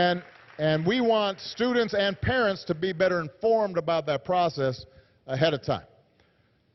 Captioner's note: applause